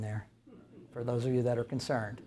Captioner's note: audience chuckles